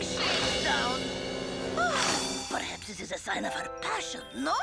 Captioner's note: Otto gasps